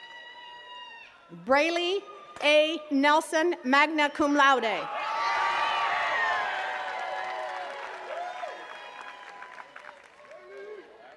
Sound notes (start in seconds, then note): 4.8 attendees cheering and clapping